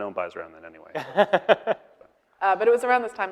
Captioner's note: laughing